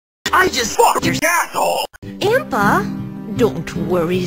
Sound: none

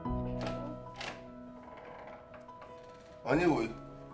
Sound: door creaking

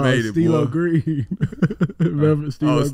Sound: chuckling

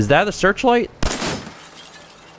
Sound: blam!

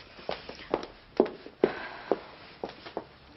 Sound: sighs

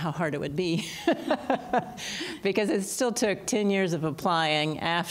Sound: laughter

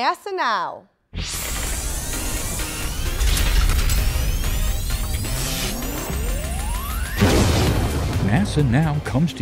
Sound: sound Effects

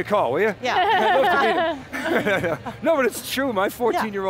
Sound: laughs

